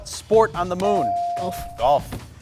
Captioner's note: buzzer chimes